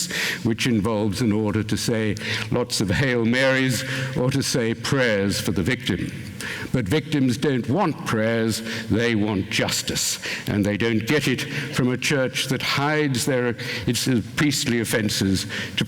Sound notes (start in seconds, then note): none